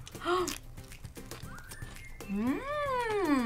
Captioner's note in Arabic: تلهث; كلاهما يمضغان